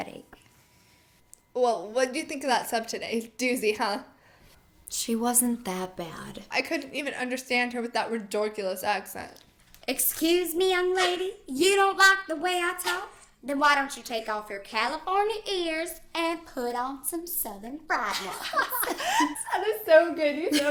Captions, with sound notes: I'M STARTING TO GET A HEADACHE. - WELL, WHAT DO YOU THINK OF THAT SUB TODAY? A DOOZY, HUH? - SHE WASN'T THAT BAD. - I COULDN'T EVEN UNDERSTAND HER WITH THAT RI-DORK-ULOUS ACCENT. - [SPEAKING IN SOUTHERN DRAWL] EXCUSE ME YOUNG LADY? YOU DON'T LIKE THE WAY I TALK? THEN WHY DON'T YOU TAKE OFF YOUR CALIFORNIA EARS AND PUT ON SOME SOUTHERN FRIED ONES? - [LAUGHING] THAT WAS SO GOOD.